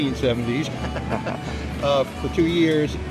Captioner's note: laughing